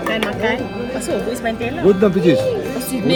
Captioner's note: speaking German